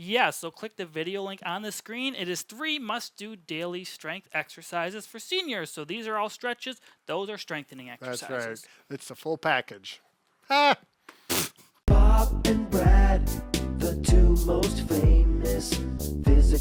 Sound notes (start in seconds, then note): 10.4 exclaims; 10.5 laughs; 11.9 upbeat music